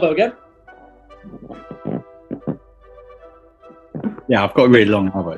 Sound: creaking

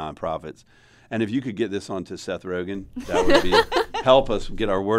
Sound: laughter

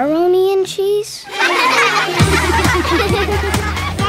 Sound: laughing

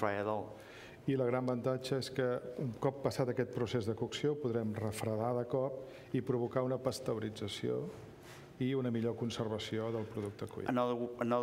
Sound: speaking catalan

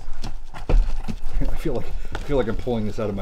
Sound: rustling

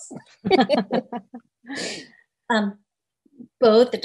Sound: laughs

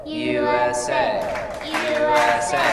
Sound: clapping

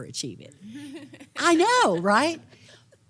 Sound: laugh

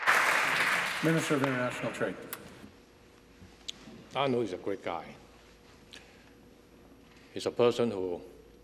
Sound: applause

